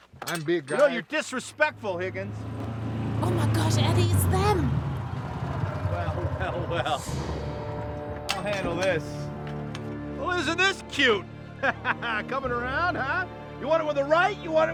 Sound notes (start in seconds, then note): 2.6 car motor sounds; 7.2 sinister music; 11.4 laughs